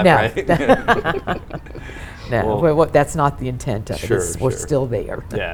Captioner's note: all laughs